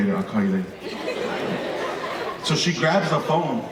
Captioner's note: audience laughing